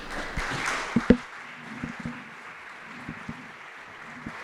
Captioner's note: audience applauds